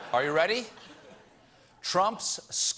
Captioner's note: laughter